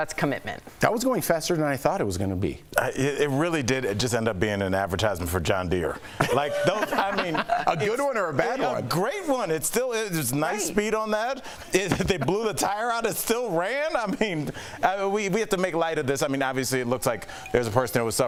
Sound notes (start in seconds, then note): 11.7 laughter